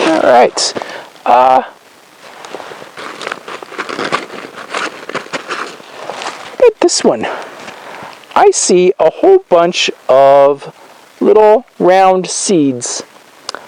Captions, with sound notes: All right. (crunches) How 'bout this one? I see a whole bunch of little round seeds.